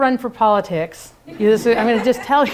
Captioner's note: laughter